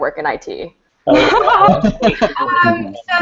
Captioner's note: laughing